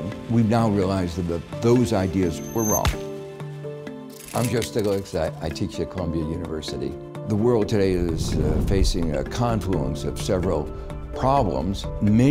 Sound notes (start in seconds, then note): 2.8 smashing sound; 3.6 static voice distortion